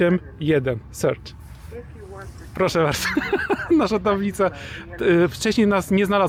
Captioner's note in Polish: śmiech